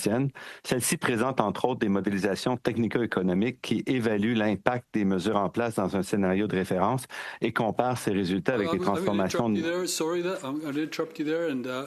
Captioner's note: speaking French